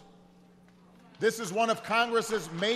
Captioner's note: applause